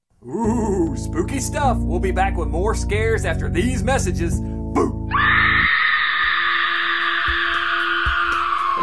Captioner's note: scream